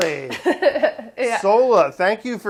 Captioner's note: laughs